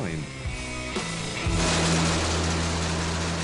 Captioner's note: explosion